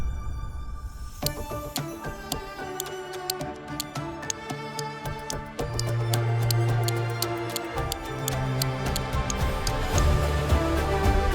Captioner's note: clicking noises can be heard